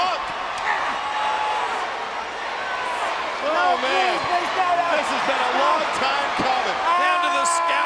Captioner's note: applause